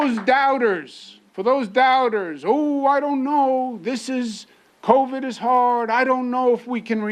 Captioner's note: applause